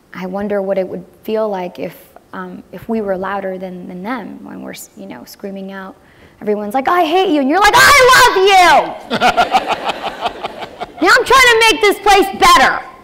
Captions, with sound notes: I WONDER WHAT IT WOULD FEEL LIKE IF WE WERE LOUDER THAN THEM WHEN WE ARE, YOU KNOW, SCREAMING OUT. EVERYONE IS LIKE I HATE YOU. YOU ARE LIKE, I LOVE YOU! [ LAUGHTER ] I AM TRYING TO MAING THIS